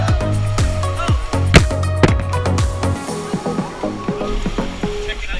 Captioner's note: branch smacks camera